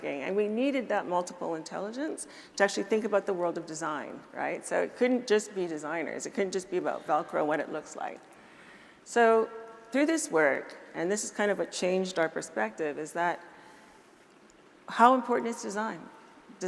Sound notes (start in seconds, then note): none